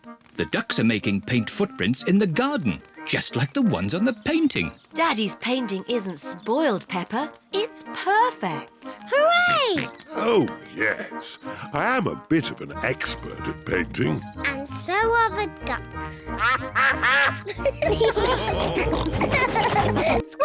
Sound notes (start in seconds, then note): 16.2 quacking; 18.2 all laugh